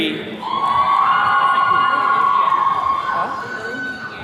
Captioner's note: attendees cheering